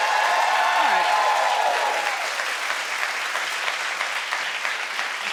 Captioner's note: audience applauding and cheering